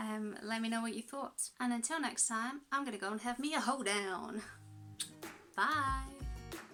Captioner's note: kiss